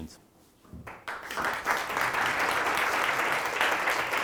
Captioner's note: students applaud